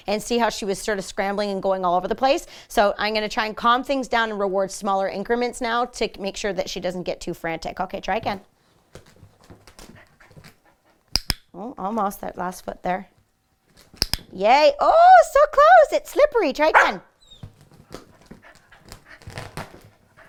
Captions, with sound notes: and see how she was sort of scrambling and going all over the place, so I'm gonna try and calm things down and reward smaller increments now to make sure that she doesn't get too frantic. Okay, try again. (click) Almost. That last foot there. (click) Yay! Oh, so close! It's slippery, try again! (barks)